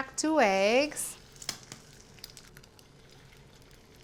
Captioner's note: sizzling